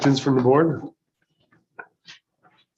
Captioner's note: silence